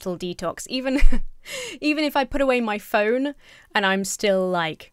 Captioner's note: laughs